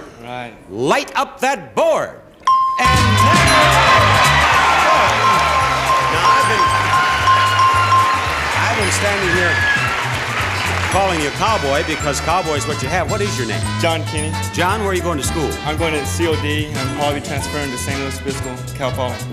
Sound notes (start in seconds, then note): 3.0 audience applauding; 5.5 audience cheering; 5.5 bell ringing